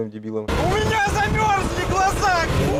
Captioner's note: yelling